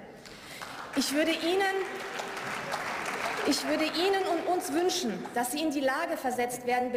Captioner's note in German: Beifall